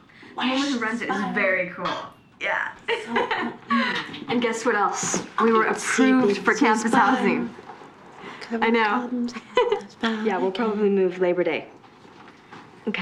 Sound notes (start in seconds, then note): 2.8 laughing; 9.3 giggles